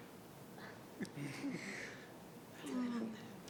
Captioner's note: group chuckling